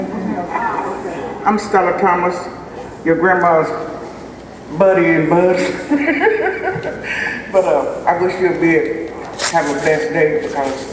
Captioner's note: laughter